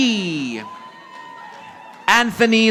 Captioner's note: audience applauding